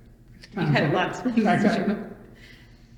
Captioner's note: laughs